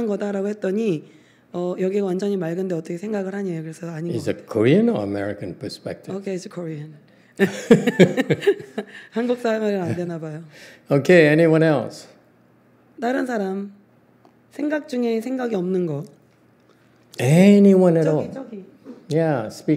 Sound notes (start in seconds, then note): 7.4 laughs